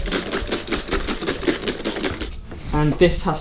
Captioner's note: water bottle spritzing